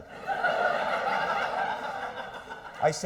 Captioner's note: laughter